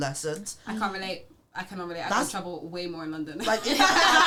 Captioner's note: laughs